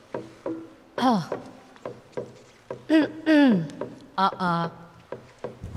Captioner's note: clears throat